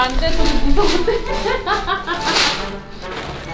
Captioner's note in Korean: 웃음 소리